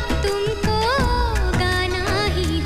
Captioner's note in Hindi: none